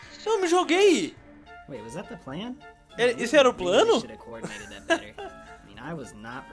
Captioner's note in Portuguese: Risos